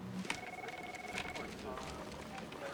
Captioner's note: phone ringing